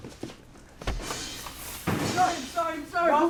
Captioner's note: footsteps; scuffle